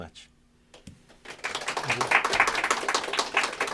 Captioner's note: applause